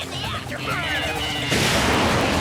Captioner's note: engine roars